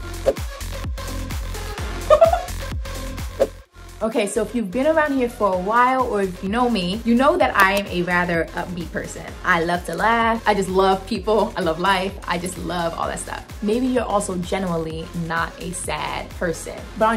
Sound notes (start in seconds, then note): 0.0 digital music; 2.0 laughing